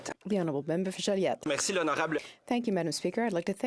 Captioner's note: speaking in French